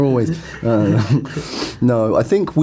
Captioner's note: both laugh